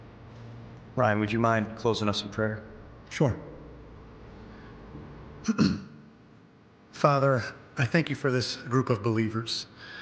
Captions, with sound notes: - Ryan, would you mind closing us in prayer? - Sure. (Ryan clears throat) Father, I thank you for this group of believers